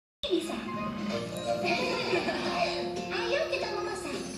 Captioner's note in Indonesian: Semuanya Tertawa